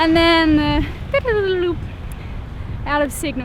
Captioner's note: mimicking crashing